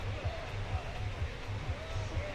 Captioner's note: whistle